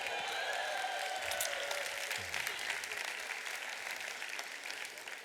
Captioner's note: audience applauds